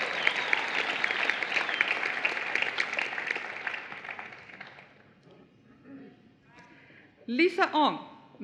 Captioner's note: applause